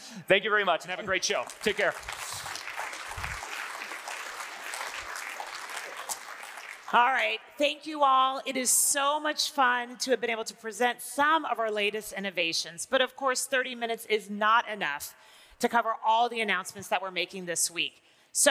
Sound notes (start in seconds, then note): 3.0 audience applauding